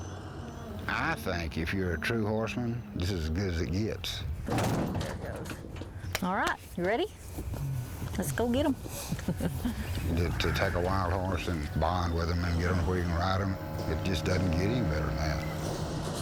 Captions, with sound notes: I THINK IF YOU'RE A TRUE HORSEMAN, THIS IS AS GOOD AS IT GETS. [metal clanging] - THERE IT GOES. ALL RIGHT, YOU READY? LET'S GO GET 'EM. [chuckles] - YOU GET TO TAKE A WILD HORSE AND BOND WITH HIM AND GET HIM TO WHERE YOU CAN RIDE HIM. IT JUST DOESN'T GET ANY BETTER THAN THAT.